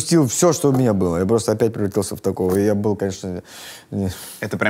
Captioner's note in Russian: вздыхает